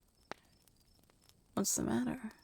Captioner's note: fire crackling, crickets chirping